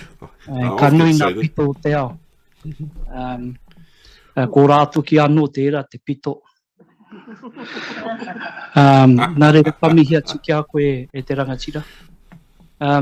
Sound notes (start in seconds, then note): 10.8 laughter